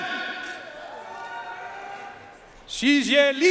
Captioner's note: audience cheering and applauding